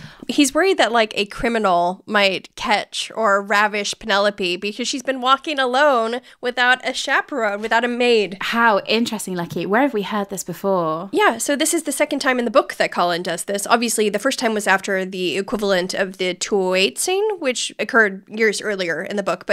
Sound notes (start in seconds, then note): none